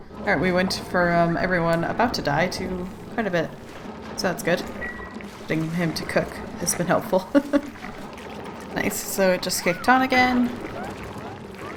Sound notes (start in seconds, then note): 7.0 laughs